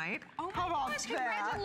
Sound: applause

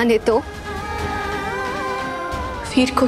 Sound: emotional vocalising

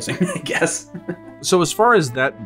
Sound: chuckles

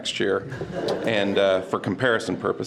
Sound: board members laugh

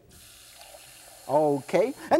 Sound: tap running

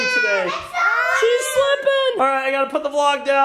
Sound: crying

